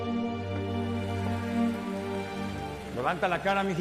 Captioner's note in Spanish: Aplausos